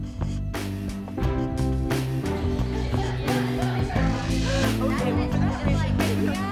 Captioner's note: soft expectant music; contestants chattering